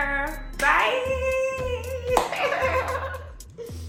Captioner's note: laughs